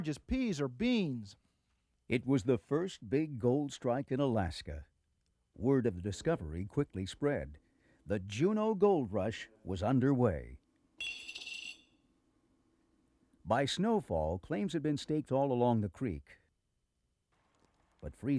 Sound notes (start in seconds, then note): 11.3 clank